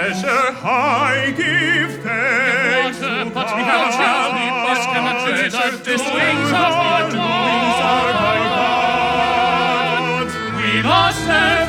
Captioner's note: murmuring